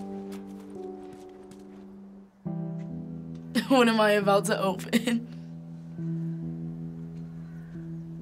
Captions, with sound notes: - (laughing) What am I about to open?